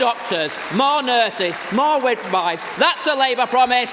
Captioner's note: applause